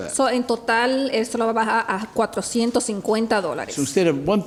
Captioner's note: speaking Spanish